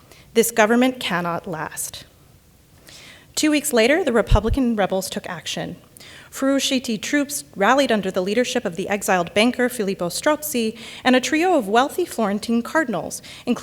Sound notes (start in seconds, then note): 6.3 speaks in Italian